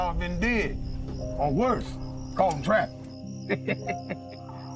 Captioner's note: chuckles